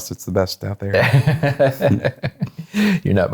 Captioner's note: laughing